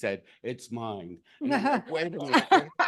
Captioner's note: laughs